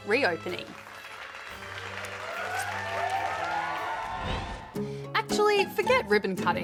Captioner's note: cheering